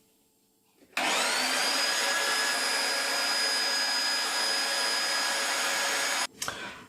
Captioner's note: machine whirring